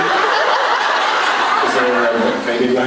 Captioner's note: laughs